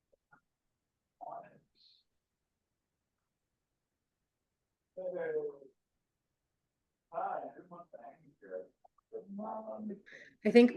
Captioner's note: indistinct conversation